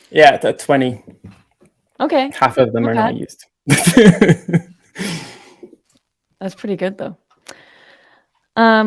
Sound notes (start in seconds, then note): 3.7 laughing